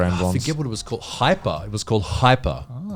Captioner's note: all laughing